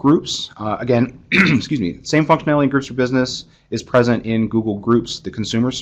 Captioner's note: cough